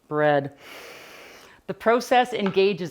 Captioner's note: inhaling deeply